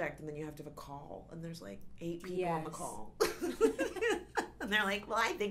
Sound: laughs

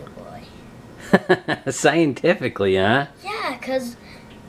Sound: laughs

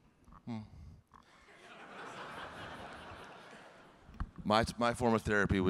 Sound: audience laughing

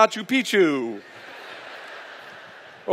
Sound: laughter

